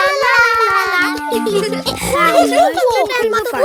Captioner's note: laughs and snorts